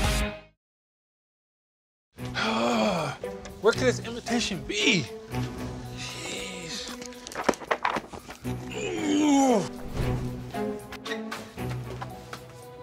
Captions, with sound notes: (whimsical music) Where could this invitation be? Geez. (pages flutter)